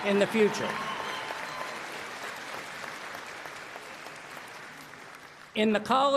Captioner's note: applause